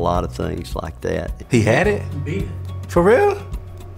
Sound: voiceover

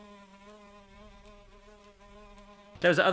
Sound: fly buzzing

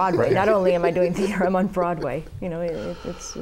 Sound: laughter

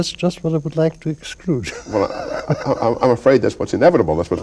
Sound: chuckles

